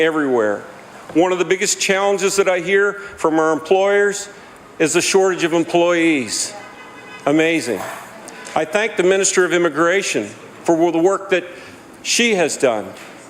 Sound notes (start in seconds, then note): none